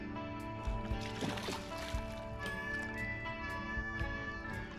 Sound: water splashing

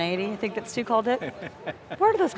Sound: laughing

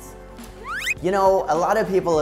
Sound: high pitched slide whistle plays

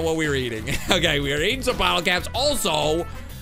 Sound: laughs

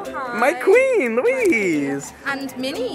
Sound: voiceover

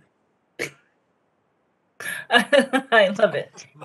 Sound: laughter

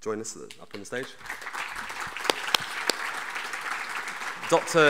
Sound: audience applauding

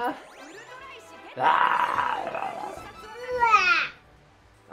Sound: roar

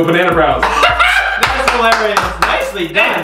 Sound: laughing; clapping

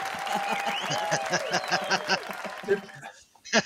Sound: applause; laughing

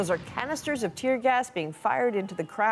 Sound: gunshots

